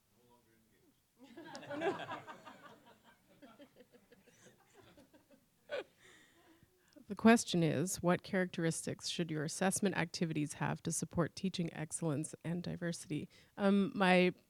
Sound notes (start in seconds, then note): 1.3 audience laughter; 1.6 audience mumbles